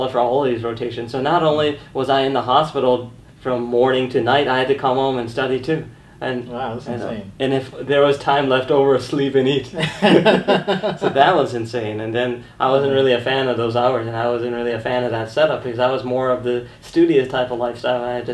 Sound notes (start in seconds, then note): 9.8 laughing